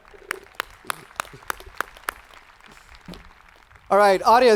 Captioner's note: students cheering